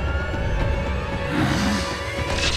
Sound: growling

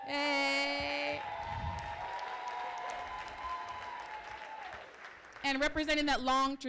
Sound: applause

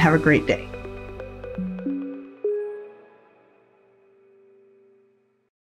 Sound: futuristic tones chiming

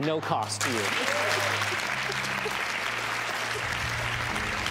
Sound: audience applauding

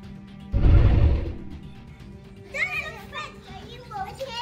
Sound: dinosaur roars

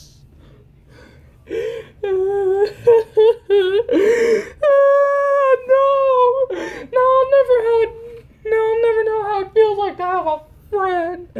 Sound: Pac-Man Crying

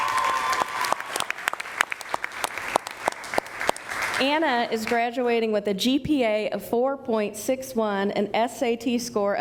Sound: cheering

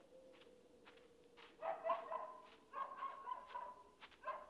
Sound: dog barking nearby

